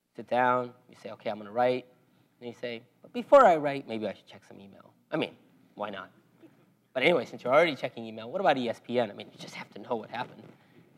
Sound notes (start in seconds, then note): none